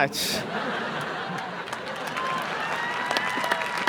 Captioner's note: applause